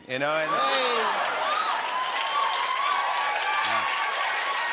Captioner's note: cheers and applause